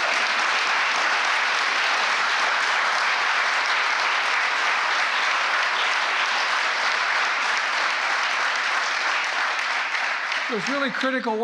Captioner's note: applause